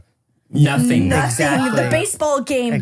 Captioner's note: laughs